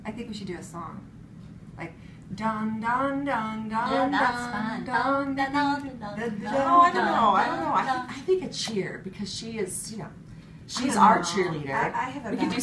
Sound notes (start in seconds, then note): 5.4 humming together